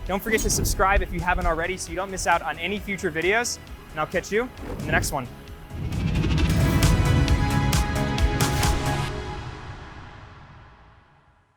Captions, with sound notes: Don't forget to subscribe if you haven't already so you don't miss out on any future videos and I'll catch you in the next one. (air whooshes) (upbeat music)